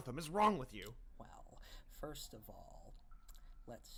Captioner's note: licks lips